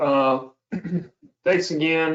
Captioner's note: clears throat